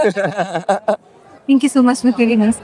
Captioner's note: laughing